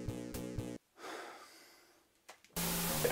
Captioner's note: sigh